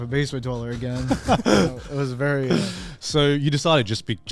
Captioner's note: men chuckle